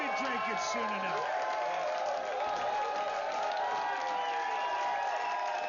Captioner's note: vítores y aplausos